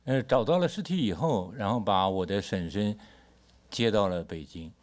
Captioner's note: speaks Mandarin